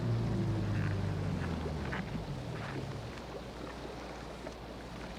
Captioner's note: none